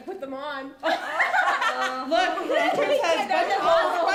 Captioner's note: laughs